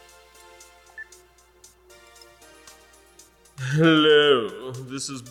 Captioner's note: upbeat synth music; cell phone beeps